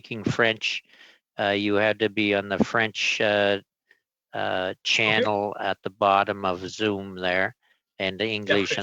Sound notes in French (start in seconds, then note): 1.6 voix de l'interprète